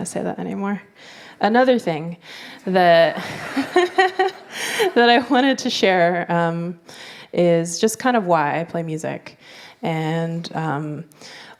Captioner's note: laughter